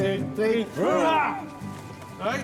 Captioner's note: all cheering